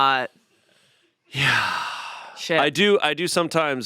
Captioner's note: sighs